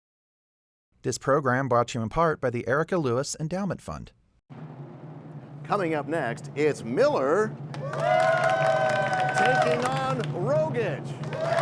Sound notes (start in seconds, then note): 7.7 cheers and applause